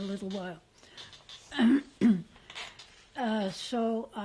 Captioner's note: pauses for 3 seconds